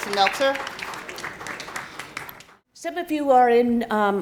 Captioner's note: students clapping